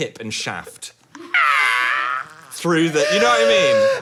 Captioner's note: laughs